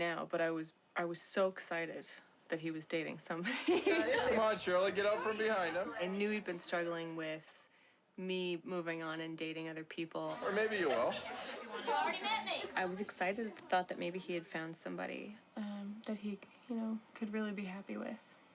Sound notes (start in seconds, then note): 3.5 laughs